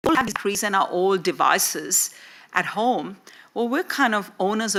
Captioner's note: audio warps